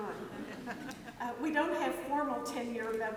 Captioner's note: audience laughs